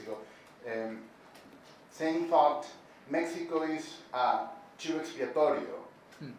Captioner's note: speaking Spanish